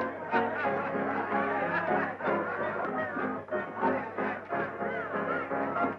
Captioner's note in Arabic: الموسيقى المبهجة تلعب بصوت أعلى; الزبائن يضحكون ويثرثرون